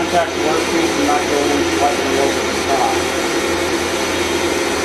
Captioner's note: machine drowns out speaker